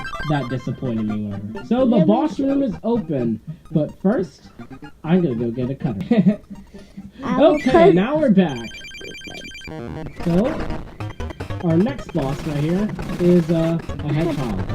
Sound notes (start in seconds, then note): 5.0 chuckles